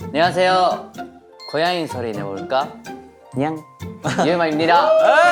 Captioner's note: meow